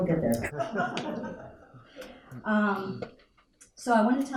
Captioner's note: audience laughing